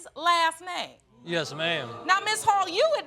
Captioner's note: audience moans